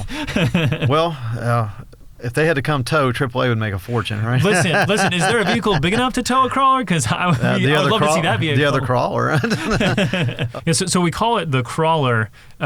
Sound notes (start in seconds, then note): 0.0 laughs; 3.9 laughs; 10.3 both laugh